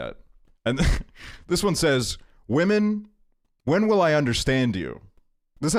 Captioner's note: laughs